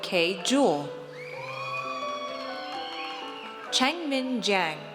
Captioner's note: audience cheers